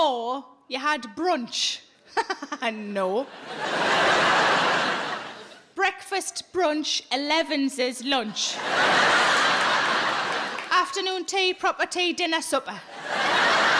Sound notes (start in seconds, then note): 2.2 laughs; 3.2 audience laughs; 8.3 audience laughs; 12.8 audience laughs